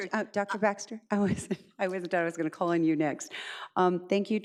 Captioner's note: chuckles